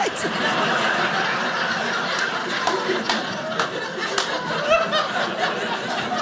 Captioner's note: audience laughing